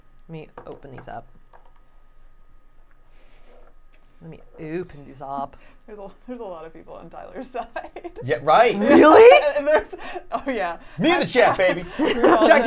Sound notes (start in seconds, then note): 8.8 laughing